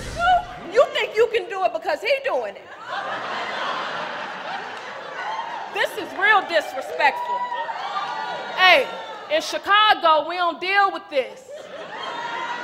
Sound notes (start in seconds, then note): 2.4 laughter